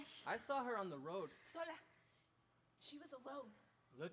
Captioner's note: speaks in Spanish